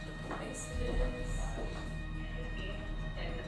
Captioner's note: gentle music; footsteps clomping